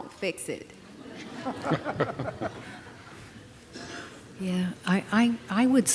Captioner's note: laughter